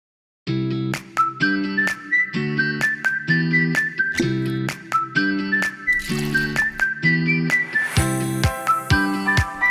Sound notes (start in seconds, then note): 0.0 upbeat happy music; 5.8 gin splashes